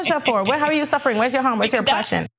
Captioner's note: laugh